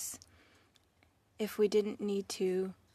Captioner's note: speaking French